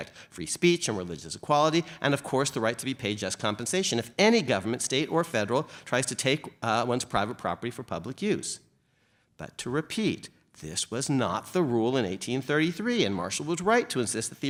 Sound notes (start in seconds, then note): none